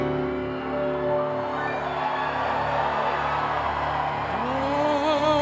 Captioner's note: cheering